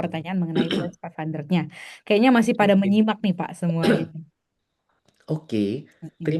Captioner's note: berdehem